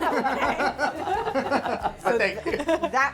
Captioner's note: laughing